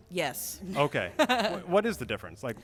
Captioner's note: laughs